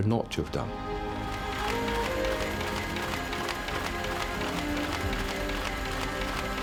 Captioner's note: orchestral music continues; printing press whirring